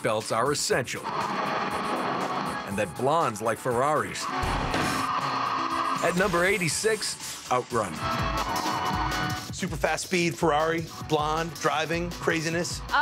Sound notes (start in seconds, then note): 2.0 crashing; 5.7 tires screeching